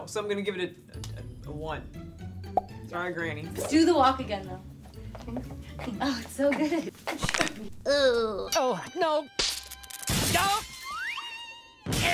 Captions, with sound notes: No. So I'm gonna give it a 1. Sorry granny! - Do the walk again though. Oh, it's so good. (joint breaking) - Oh no. (glass shuttering)